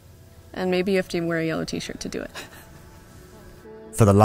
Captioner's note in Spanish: Risas